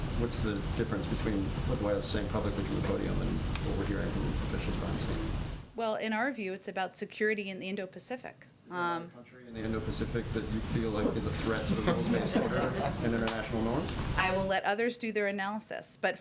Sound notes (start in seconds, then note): 11.0 laughter